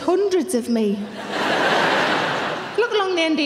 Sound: audience laughing

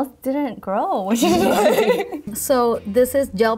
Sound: both laugh

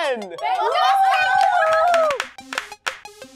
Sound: cheering

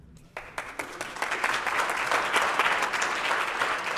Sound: audience applauding

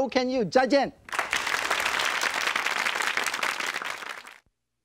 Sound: audience claps

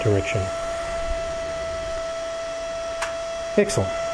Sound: fan whirring

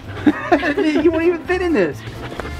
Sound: laughter

